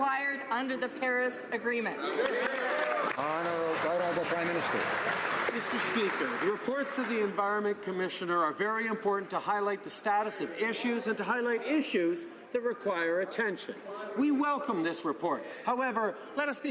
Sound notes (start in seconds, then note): 5.1 some Applause